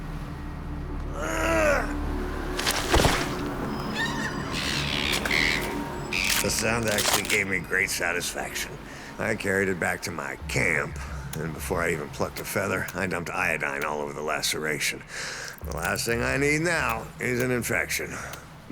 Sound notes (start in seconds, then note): 3.6 seagull shrieks; 5.6 crunching